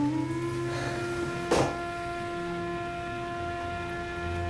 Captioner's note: exhales sharply